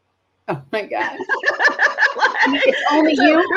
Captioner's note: laughs